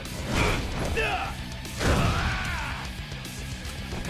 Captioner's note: fighters grunting